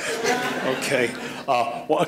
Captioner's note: laughter; laughs